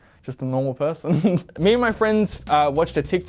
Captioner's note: laughs